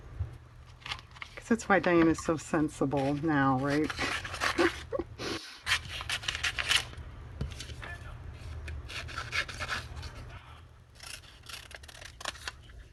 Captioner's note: laughs